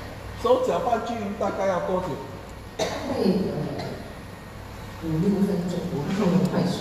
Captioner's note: coughs